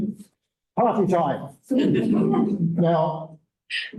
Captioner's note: laughter